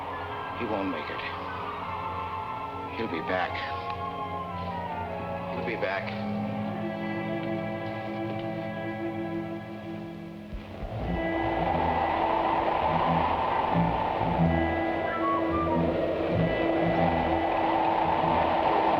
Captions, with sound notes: He won't make it. He'll be back. He'll be back. (suspenseful orchestral music) (wind whooshing)